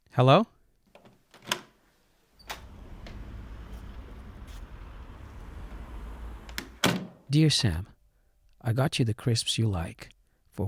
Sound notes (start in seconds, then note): 2.4 door opens